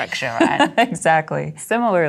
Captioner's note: laughs